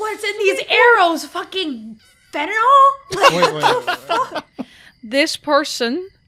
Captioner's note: laughter